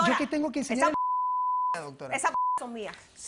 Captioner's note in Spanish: Bip